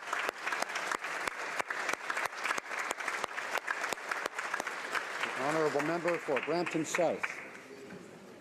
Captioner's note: applause